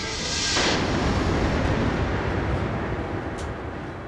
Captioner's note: thunder rumbling